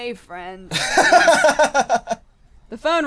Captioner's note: laughs heartily; cry